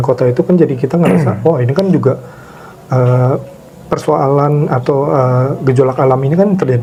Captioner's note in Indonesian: berdehem